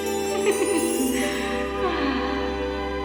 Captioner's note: laughs